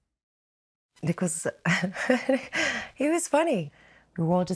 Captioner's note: laughs